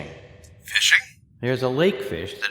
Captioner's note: radio voice